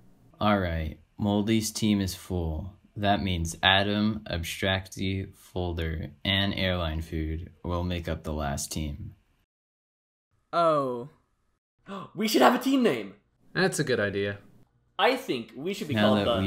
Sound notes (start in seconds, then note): 11.8 gasp